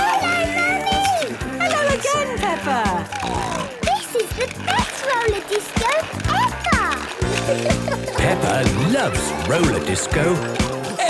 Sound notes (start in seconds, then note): 3.3 snorting